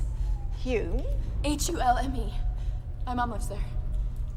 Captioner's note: none